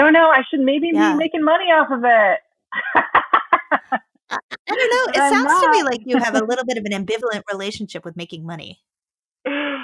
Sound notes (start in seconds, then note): 4.3 laughing